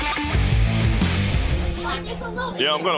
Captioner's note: crowd chatter